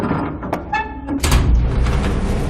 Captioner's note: grunting